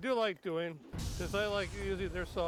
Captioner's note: dramatic whooshing sound effect